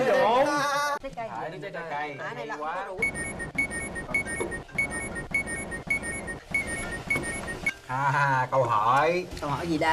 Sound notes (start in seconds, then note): 3.1 quest notification